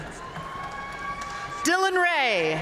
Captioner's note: audience cheering and applauding